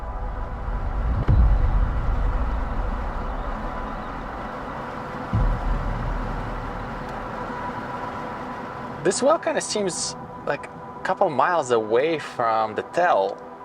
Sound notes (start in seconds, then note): 2.1 wind whistling